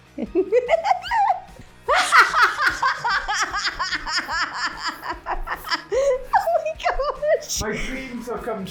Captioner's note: laughing